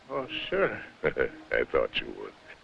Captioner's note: chuckling